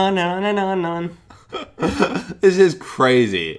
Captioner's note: chuckles